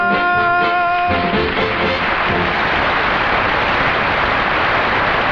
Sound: audience applauding

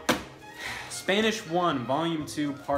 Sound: sighs

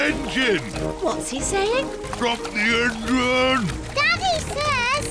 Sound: splutters

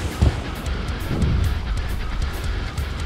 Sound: lighting strikes; blazing fire

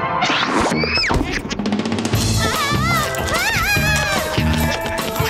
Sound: squeals and yelling

